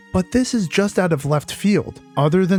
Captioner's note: none